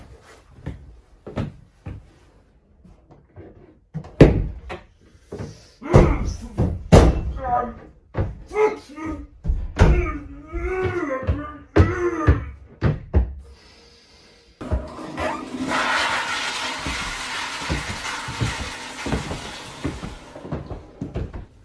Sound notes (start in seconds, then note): 6.8 hitting Noises; 14.6 toilet Flush